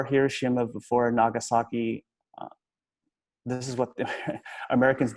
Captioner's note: chuckles